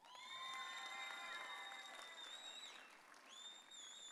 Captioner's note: audience cheering